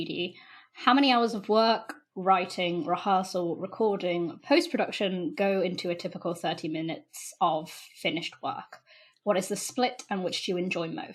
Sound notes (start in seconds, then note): none